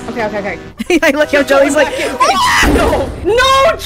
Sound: scream

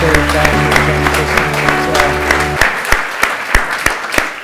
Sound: applause

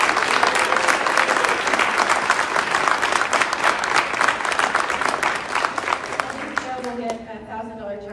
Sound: clapping

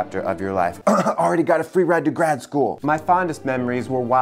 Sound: coughing

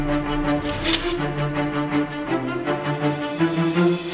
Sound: sword unsheathes; sword clinks

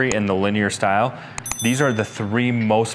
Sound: bell dinging

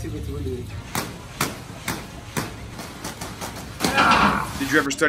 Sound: rope hitting floor; grunts

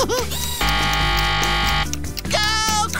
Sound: laughs; buzzing

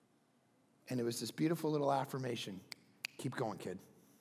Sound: fingers snapping

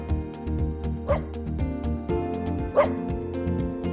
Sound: dog barking

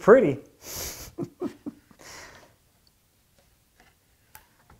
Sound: laughing

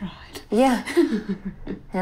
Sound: chuckles

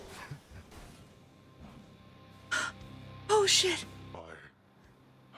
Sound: gasp

